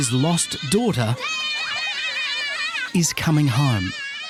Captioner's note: children cheering